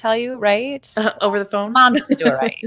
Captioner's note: laughs